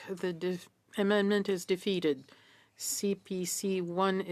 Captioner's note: speaking French